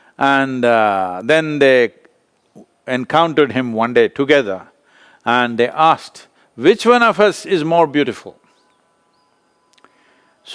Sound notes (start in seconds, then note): none